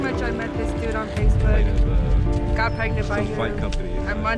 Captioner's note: voiceover